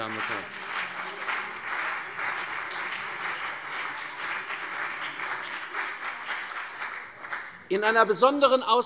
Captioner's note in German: Beifall CDU und BÜNDNIS 90/DIE GRÜNEN